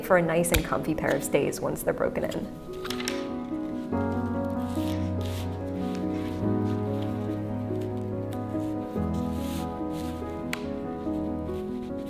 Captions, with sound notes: for a nice and comfy pair of stays once they're broken in. (classical music) (fabric rustling)